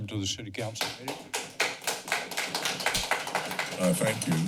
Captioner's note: clapping